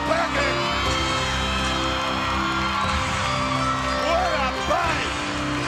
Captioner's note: crowd cheers